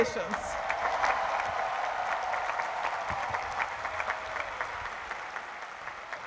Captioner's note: cheering